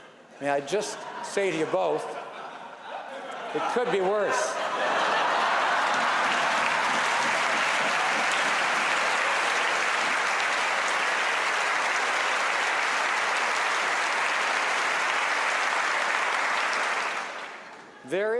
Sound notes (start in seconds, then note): 5.1 laughter and applause